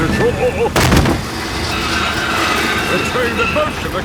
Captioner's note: thud